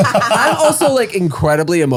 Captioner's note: all laughing